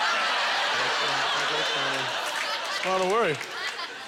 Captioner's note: audience laughter